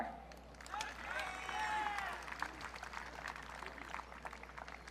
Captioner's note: audience cheering